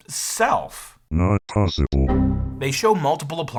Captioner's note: computer Male Voice